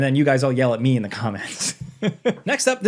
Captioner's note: chuckles